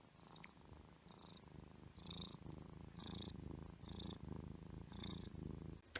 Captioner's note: purring intensifies